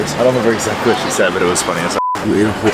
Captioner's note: beep